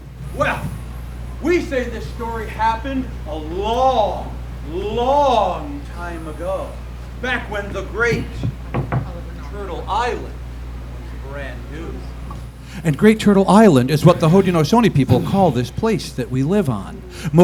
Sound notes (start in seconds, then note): 8.4 knocking on ground